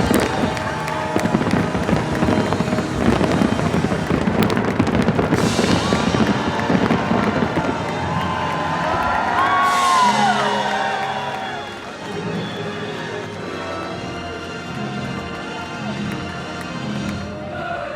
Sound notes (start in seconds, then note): 1.2 cheers and applause